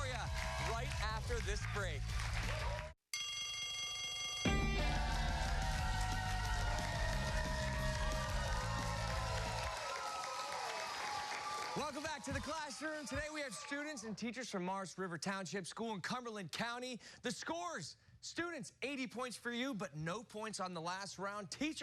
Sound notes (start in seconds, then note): 3.1 bell rings; 4.5 cheers and applause